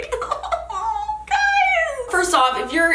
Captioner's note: laughs